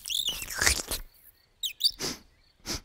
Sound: fox smacking lips; fox sniffing

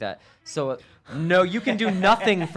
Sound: cell phone Siri speaks

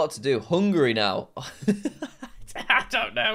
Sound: laughs

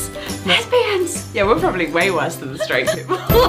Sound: whispers; normal voice; laughs

